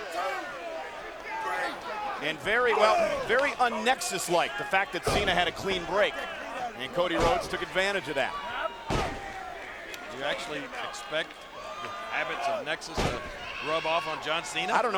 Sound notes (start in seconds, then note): 8.8 blows thudding